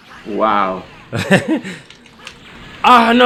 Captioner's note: troll laugh